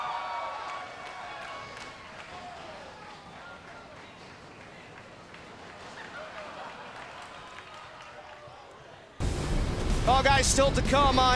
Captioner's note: cheers